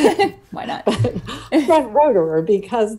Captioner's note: chuckles